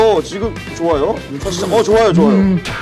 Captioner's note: slurpppp